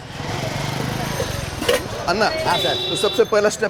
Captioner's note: bike revving; speaking in Hindi